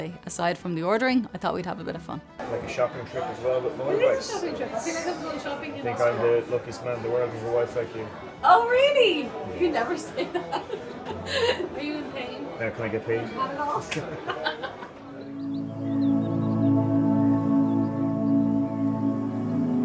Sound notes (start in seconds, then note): 10.9 laughing